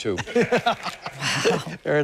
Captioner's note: laughter